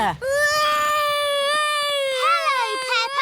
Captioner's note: continues wailing